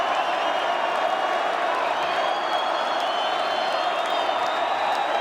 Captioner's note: crowd cheering